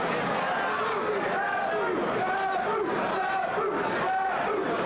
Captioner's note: crowd chanting